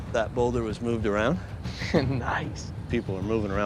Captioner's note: chuckles